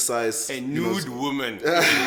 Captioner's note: laughs